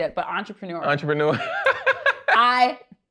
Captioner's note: laughs